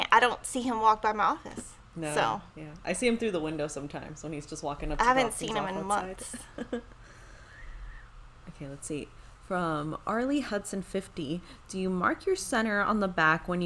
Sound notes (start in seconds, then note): 5.5 speaks faintly; 6.2 chuckles